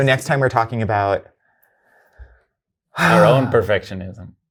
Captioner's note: sighs